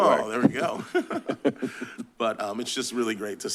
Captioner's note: laughter